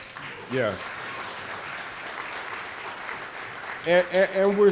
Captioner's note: audience clapping